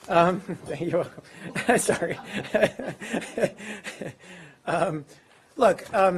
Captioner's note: laughs